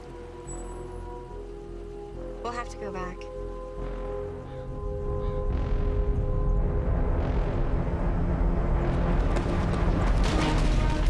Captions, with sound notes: We'll have to go back. [loud growing rumble] [loud cracking]